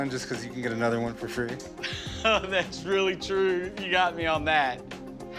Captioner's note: laughs